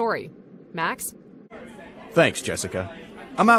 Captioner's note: crowd chatter